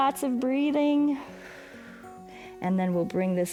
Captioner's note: exhales